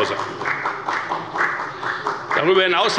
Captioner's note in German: Beifall bei der FDP